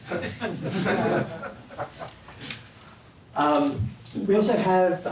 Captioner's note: laugh